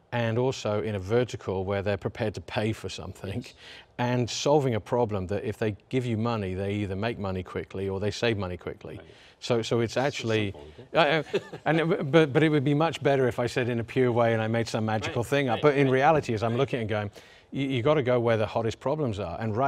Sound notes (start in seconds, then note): 10.5 laughs